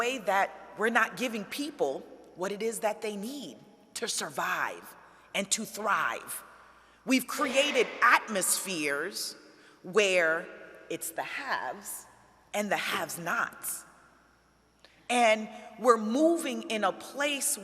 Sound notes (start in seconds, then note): none